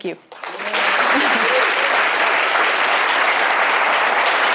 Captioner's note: audience applauding